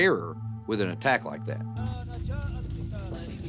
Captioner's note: speaks in foreign language